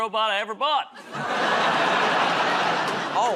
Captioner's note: laughter